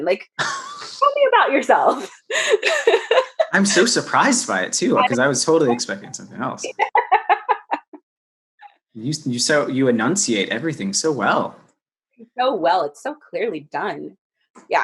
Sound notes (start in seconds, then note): 2.4 laughs; 6.6 laughs